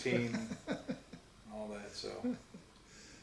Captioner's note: laughs